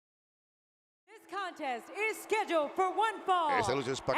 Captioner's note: applause